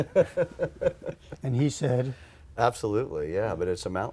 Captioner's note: laughter